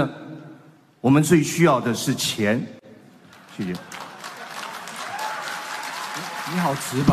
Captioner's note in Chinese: 掌聲